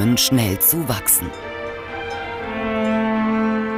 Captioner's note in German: Kuhglocken